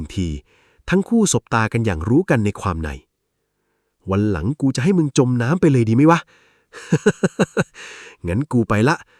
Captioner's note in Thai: เสียงหัวเราะ